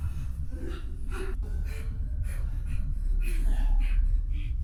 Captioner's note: labored breathing